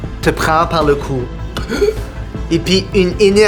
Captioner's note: chokes